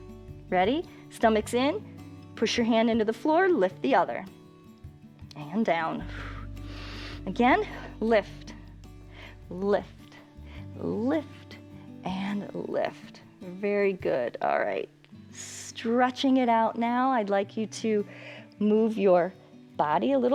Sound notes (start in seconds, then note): 6.0 exhales and inhales